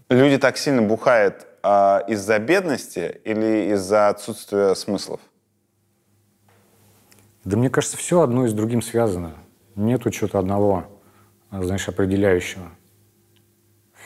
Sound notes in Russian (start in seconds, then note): none